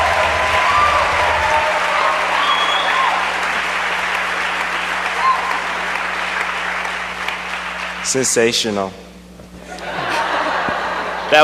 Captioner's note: cheers and applause